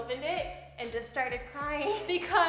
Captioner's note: laughing